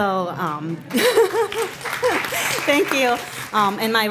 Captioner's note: applause; laughing